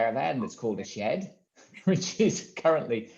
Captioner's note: laughs